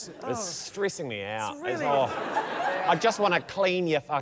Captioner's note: laughter